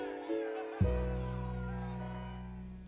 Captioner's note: cheering